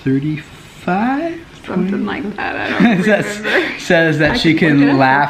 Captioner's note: laughs